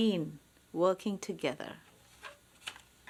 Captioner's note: none